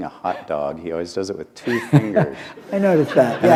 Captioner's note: laughter